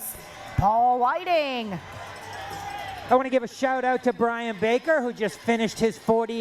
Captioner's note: cheering